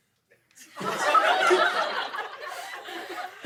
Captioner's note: laughter